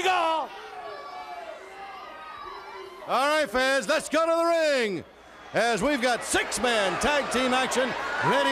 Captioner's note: crowd cheering